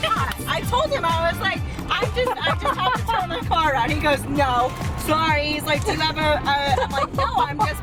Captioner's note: laughing